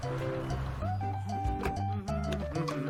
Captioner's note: humming; door creaks